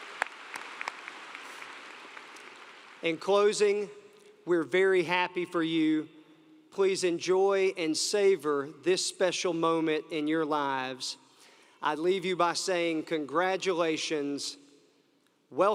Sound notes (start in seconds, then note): 4.0 applause